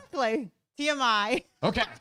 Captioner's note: laughs